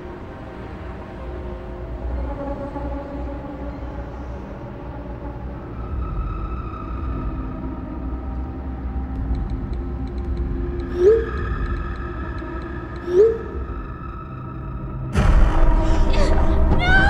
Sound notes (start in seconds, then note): 9.2 texting; 15.2 suspenseful music